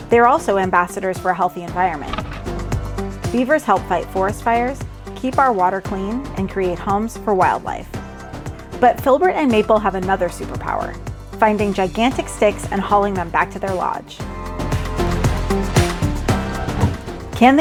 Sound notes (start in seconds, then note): 1.6 limb scrapes; 15.7 upbeat music